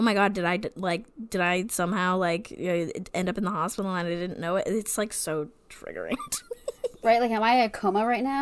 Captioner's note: laughs